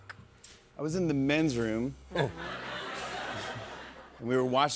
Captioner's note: laughter